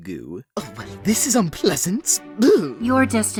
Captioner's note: scoff